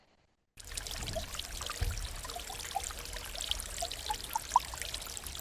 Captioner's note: water sloshing